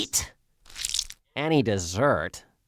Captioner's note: squelch